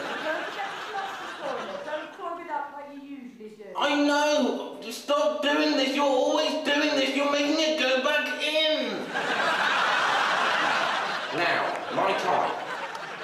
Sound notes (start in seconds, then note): 9.0 audience laughing; 13.0 audience applauding